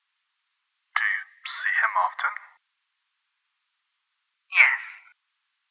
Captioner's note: silence